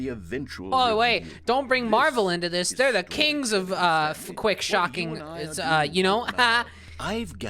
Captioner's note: forced laughter